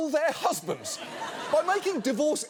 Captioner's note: studio audience laughing